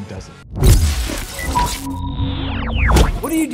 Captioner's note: sizzling sound